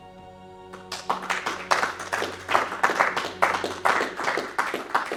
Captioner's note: all clapping